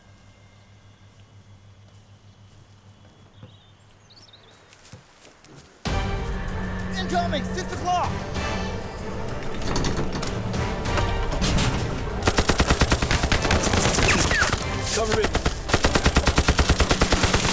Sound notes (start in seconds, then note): 4.4 leaves crunching